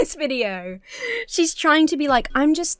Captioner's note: laughs